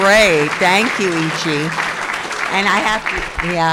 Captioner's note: crowd applauding